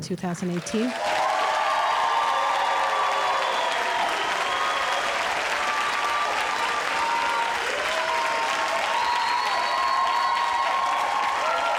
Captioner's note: audience cheering